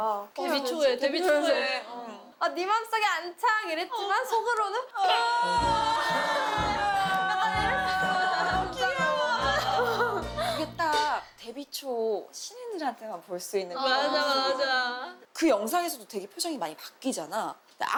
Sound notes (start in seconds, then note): 5.0 crying; 7.0 crying together